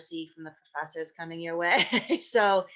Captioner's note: chuckles